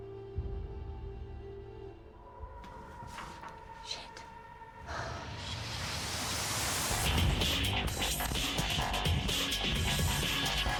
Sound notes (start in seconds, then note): 3.0 sighs; 6.9 intense heavy techno music